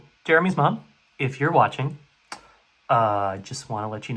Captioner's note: smack